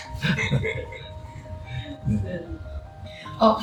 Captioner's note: laughs